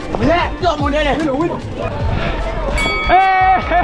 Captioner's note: men speaking foreign language